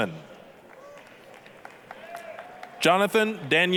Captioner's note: applause, cheering